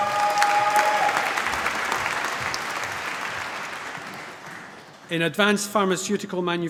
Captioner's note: cheering, applause